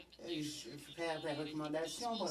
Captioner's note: speaking French